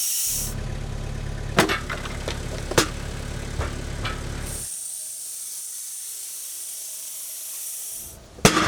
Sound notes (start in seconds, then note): 0.3 motor rumbling; 4.4 machine whirring